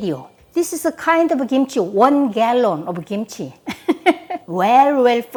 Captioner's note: laughs